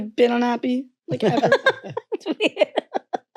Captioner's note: parents laughing